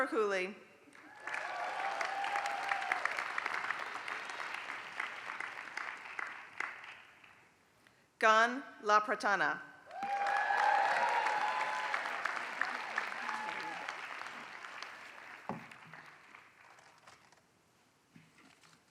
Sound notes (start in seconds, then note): 0.9 applause; 9.8 applause